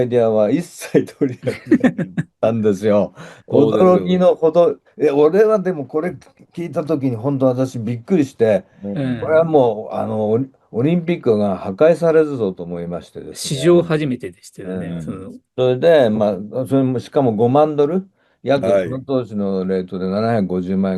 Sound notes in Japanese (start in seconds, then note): 0.8 笑い